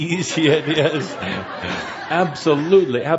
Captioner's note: laughter